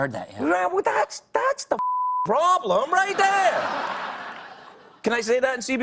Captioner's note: audience laughs